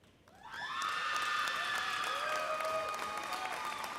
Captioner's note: crowd cheers